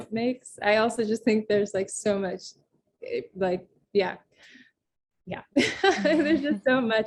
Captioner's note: laughs